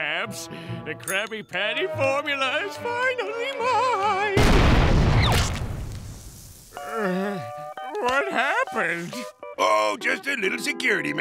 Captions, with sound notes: The Krabby Patty formula is finally mine! [groaning] What happened? Oh just a little security measure